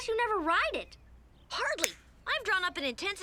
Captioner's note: fingers snap